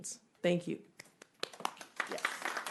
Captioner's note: applause